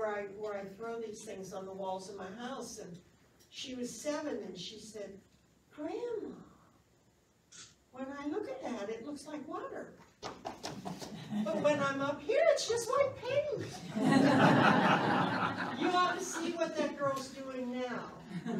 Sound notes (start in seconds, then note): 10.2 stomps feet; 13.6 laughs